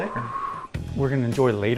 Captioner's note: exhales